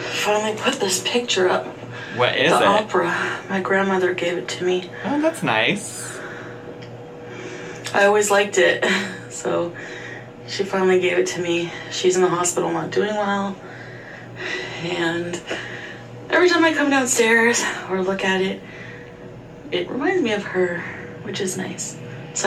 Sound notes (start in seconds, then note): 14.9 sighs